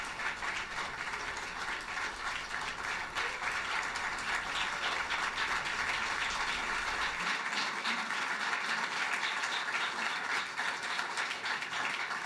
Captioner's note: applause